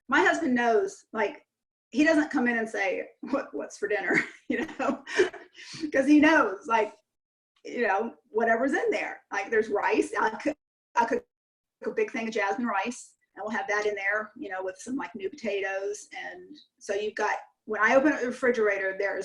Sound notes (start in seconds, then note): 4.4 chuckles